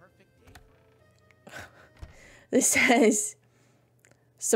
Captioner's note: laughs